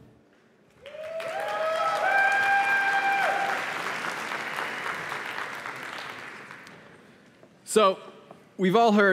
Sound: applause

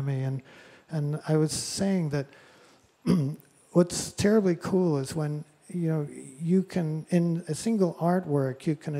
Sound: clears throat

